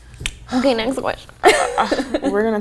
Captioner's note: laughs